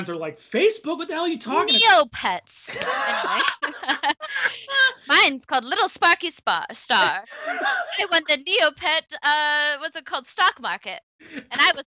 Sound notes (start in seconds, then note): 2.6 both laughing